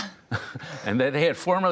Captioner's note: laughter